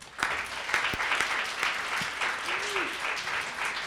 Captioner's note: audience applause